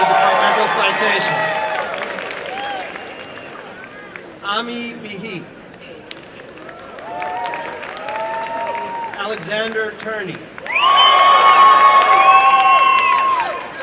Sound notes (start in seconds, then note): 6.4 applause; 11.8 applause and cheering